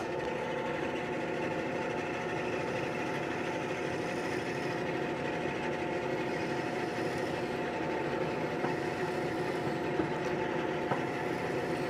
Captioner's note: sawing